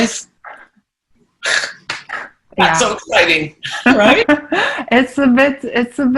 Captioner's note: laughing